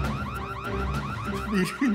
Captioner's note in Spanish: Se dispara alarma